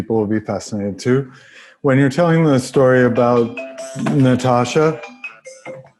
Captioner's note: cell phone in background